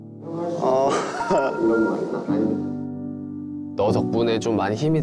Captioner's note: about to cry